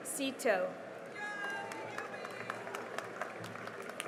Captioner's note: cheering and applause